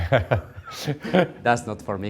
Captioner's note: laughs